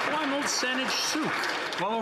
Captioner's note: some Applause